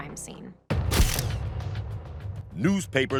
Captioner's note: camera clicking